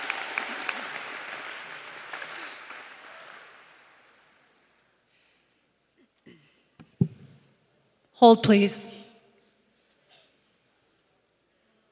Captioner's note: applause